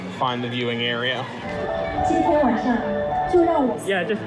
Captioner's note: chinese announcements over loudspeakers